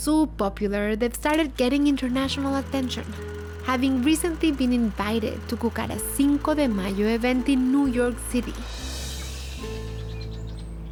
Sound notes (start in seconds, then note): none